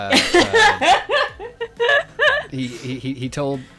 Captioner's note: laughing